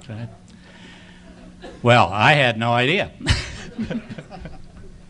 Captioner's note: audience laughing